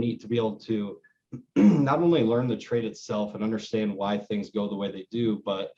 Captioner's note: clears throat